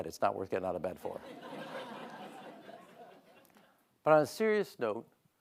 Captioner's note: audience laughing